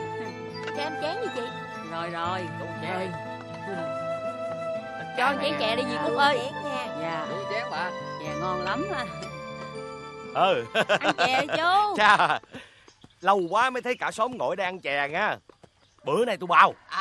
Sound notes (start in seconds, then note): 10.6 Sau ti laughing